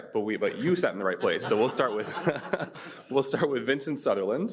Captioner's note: panelists laughing